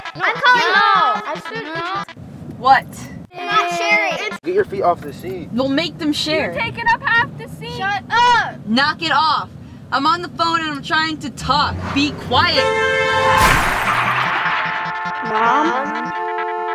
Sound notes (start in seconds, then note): 0.0 children arguing; 3.3 children arguing; 11.8 vehicle honking; 13.1 vehicle crashing